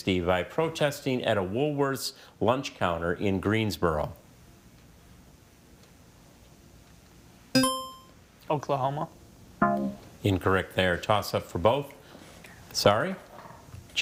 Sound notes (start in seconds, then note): 7.6 buzzer chiming; 9.6 text buzzing